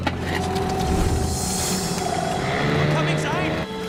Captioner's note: engine starts